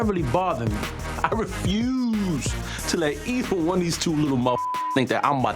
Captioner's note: beep